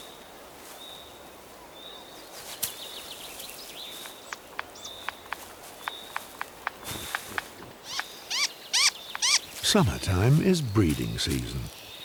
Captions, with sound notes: [bird chirping] Summertime is breeding season.